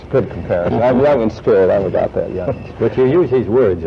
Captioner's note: laughs